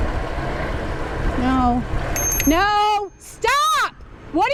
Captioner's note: bell